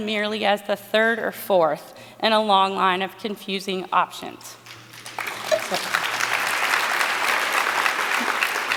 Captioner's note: applause